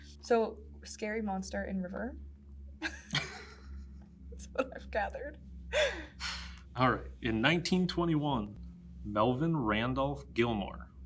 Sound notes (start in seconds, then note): 2.8 both laugh